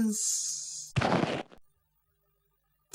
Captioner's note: thud